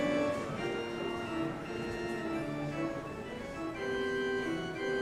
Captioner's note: audience chatters